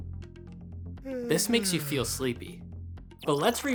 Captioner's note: yawn